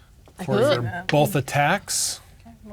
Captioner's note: whispering